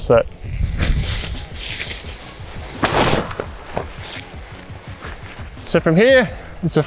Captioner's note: wiring exhales from release of pressure